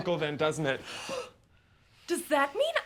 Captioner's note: Catherine gasps